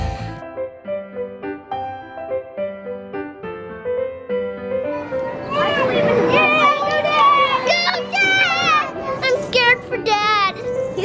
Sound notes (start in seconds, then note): 0.2 light music; 7.0 cheering